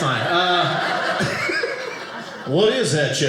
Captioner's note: audience laughing